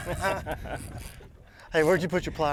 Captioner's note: both laughing